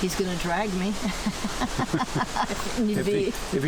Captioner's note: laughs